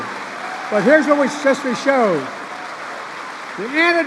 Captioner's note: applause